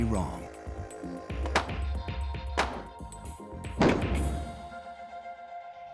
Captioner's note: popping